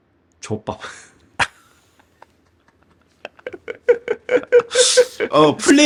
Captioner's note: laugh